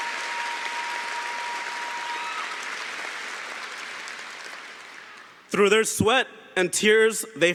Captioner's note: cheering & Applause